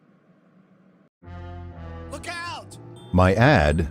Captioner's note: TV show on low volume